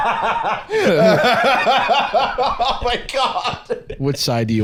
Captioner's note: laughing; laughs